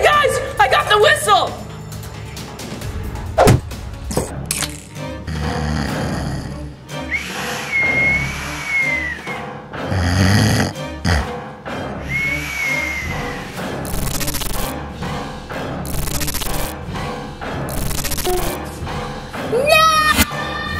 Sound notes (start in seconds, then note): 3.4 kicking sound effect; 5.4 snoring and blowing whistle